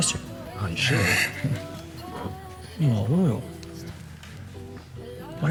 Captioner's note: chuckles